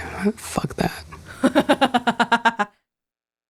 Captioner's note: chuckles